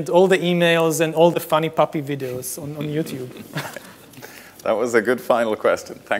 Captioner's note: laughs